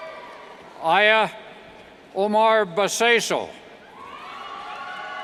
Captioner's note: cheers; cheers